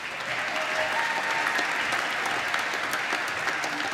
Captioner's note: applause